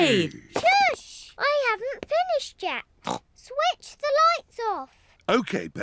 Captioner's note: snorts